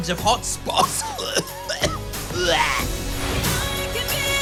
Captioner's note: coughs